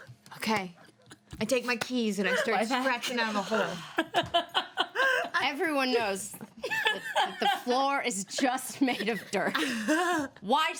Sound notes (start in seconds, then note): 3.9 women laugh